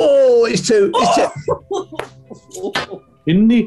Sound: groans and laughs

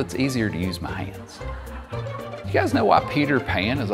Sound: audience laughing

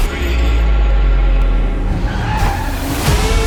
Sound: music fades out; tires screech; dramatic music continues

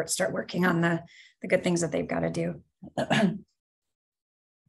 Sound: coughs

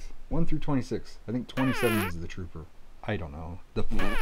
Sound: fart noise; blows raspberry

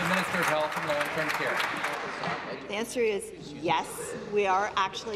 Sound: applause

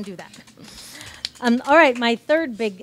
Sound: audience claps

